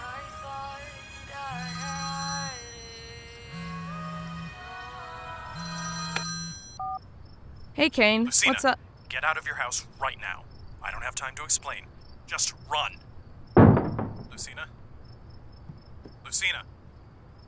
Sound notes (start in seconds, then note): 1.4 phone rings; 5.5 ringing stops; 6.0 music stops; 13.6 slam